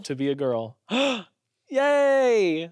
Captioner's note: gasps